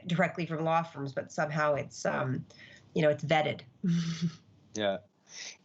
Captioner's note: chuckles